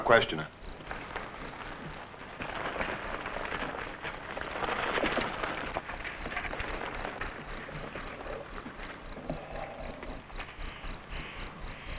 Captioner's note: crickets chirping